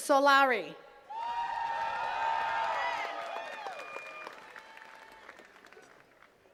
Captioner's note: attendees cheering and clapping